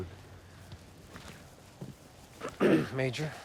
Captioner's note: footstep